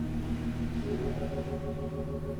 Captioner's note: wind blowing sand